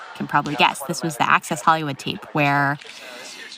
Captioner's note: inhales